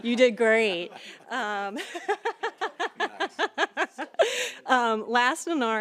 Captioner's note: laughter